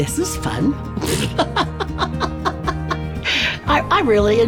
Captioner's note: laughing